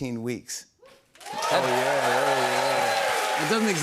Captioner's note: cheers and applause